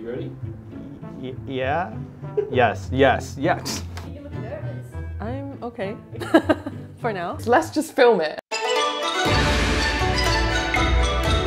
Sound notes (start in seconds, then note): 6.2 chuckles; 8.5 gentle music